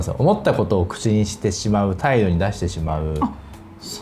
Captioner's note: laughs